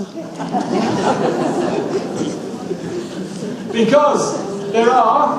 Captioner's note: audience laughs